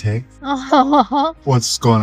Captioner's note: laughing